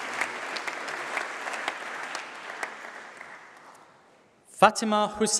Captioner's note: applause